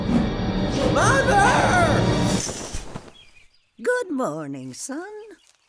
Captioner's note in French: gazouillis d'oiseaux